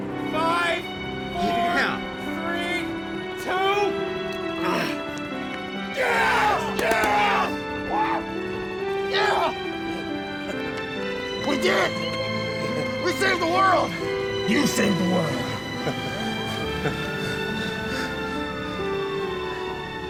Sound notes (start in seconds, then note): 5.9 groans; 7.2 gun firing; 16.3 sirens wailing